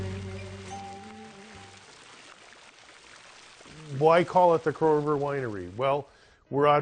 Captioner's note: water running